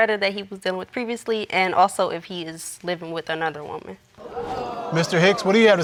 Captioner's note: audience exclaims